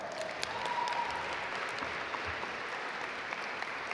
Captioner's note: audience applaud